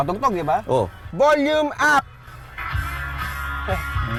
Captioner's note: shouting